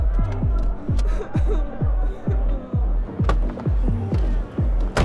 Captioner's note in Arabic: راشيل تبكي